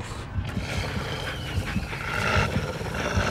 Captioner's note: snarling